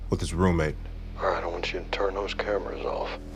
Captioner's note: on phone